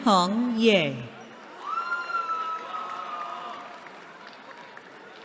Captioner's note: cheering